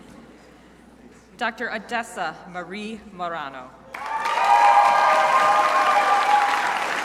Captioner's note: crowd applauding